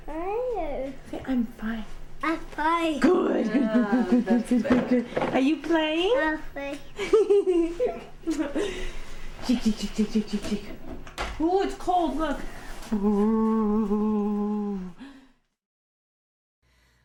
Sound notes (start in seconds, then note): 7.0 giggling